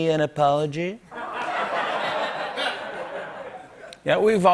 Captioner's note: laughter